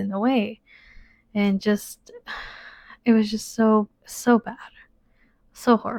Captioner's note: sighs